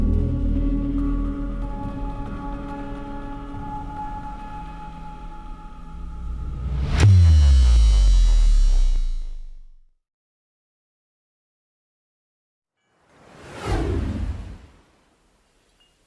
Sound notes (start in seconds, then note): 0.0 gentle music; 6.6 logo buzzing; 13.2 logo whooshes